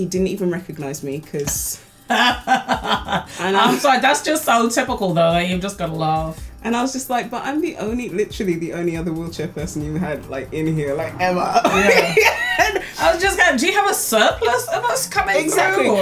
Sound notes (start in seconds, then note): 2.1 laughs; 11.6 laughs